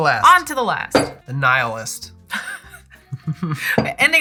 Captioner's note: laughter